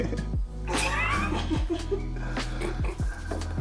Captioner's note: laughter